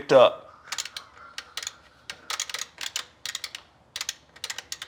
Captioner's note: joystick clicking